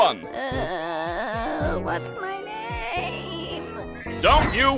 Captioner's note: groaning